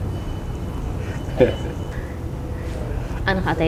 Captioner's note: laughing